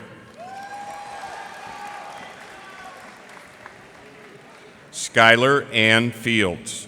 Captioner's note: cheers and applause